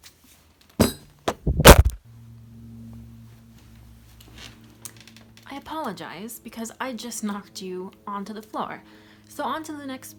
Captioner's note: clunk, whoosh, bang